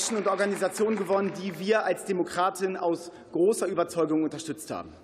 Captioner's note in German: Beifall